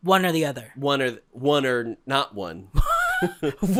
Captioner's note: chuckles